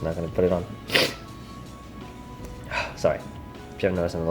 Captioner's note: sniffs